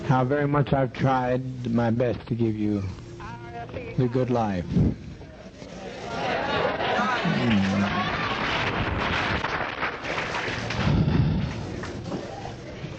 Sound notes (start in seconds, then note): 5.9 crowd clamoring; 8.7 crowd applauding